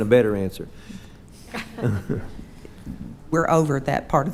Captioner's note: and others chuckling